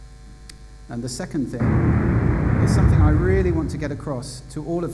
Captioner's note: booming noise